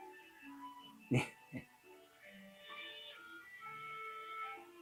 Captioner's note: Guy in the Suit laughs